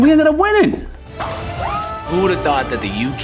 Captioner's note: group cheering